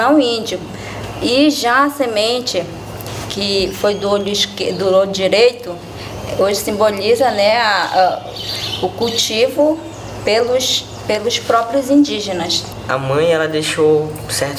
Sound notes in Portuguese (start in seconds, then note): 7.2 pássaros cantando